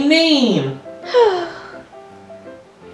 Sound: sigh

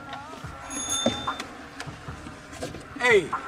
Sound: cellphone notification beeps

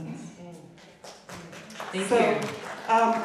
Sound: audience clapping

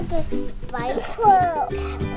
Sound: mutters

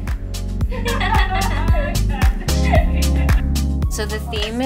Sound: Vanessa laughing

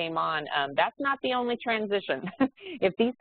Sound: laughs

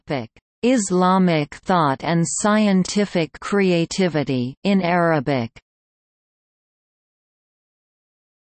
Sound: in Arabic

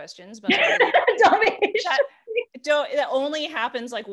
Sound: laughter

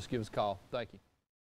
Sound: silence

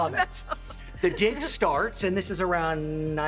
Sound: laughs

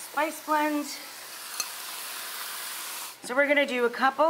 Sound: chicken sizzling

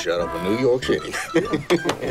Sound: laughs

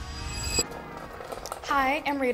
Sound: high pitched beeping; cart wheels rattling

